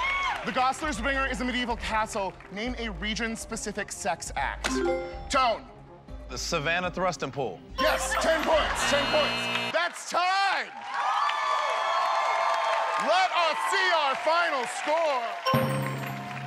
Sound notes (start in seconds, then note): 7.9 laughter; 8.2 buzzer; 11.1 cheers and applause; 15.4 drum roll